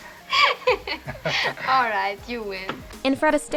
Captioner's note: laughs